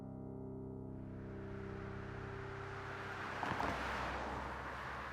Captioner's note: traffic noises